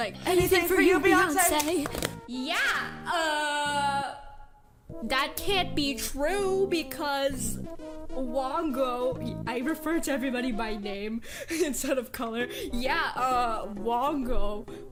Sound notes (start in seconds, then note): 1.6 drops a plastic box